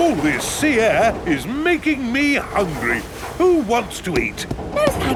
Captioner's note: none